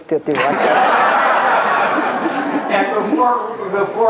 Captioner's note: laughter